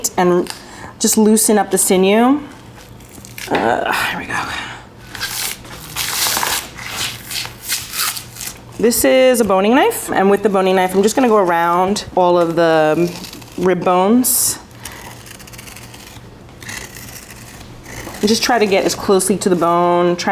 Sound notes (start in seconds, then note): 5.2 sinew squelching; 14.9 knife scraping